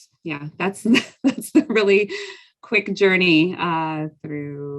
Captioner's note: chuckles